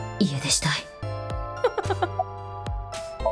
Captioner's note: chuckles